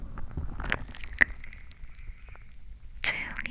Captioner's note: sound of Birds